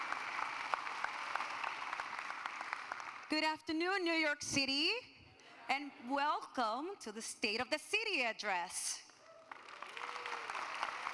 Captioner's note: applause